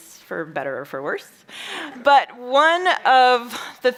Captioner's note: chuckles